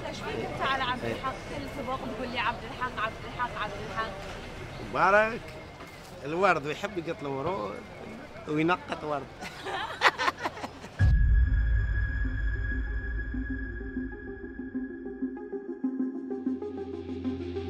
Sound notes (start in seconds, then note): 9.4 laughs